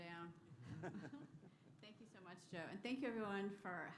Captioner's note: laughter